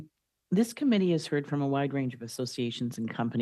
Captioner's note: speaking French